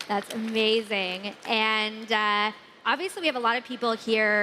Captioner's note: applause